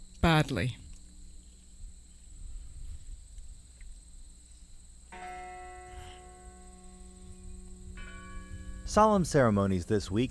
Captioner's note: bell rings